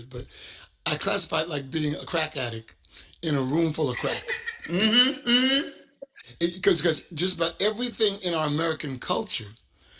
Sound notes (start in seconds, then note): 3.9 laughs